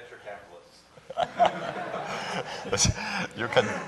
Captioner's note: laughter